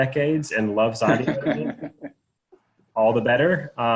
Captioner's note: panelists laughing